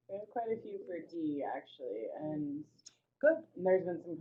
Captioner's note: voiceover